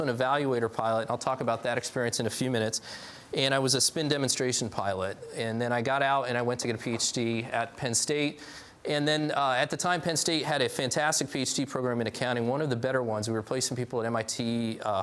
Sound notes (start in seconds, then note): none